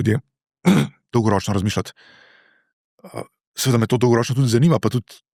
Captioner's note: coughing